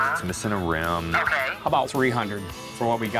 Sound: on phone

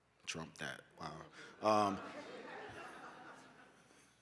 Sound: laughter

